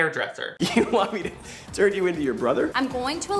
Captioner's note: chuckles